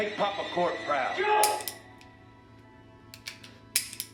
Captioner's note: gun clicks